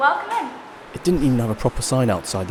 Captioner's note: voiceover